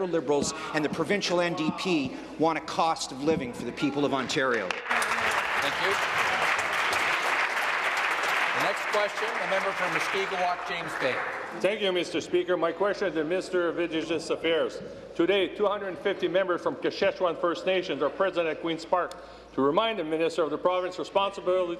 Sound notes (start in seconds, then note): 9.0 applause